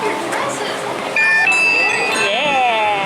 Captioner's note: chiming